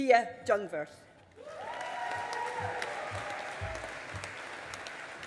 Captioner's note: audience applauding